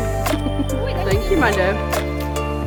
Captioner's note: giggling